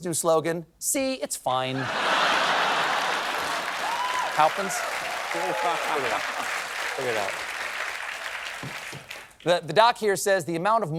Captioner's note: applause